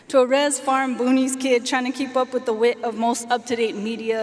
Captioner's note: none